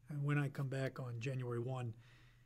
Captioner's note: none